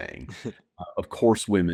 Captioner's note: laughs